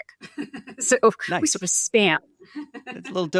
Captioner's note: chuckles